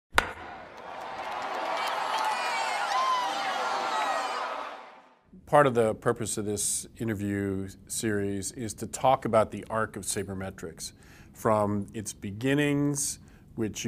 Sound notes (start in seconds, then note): 0.1 baseball being hit; 0.2 cheering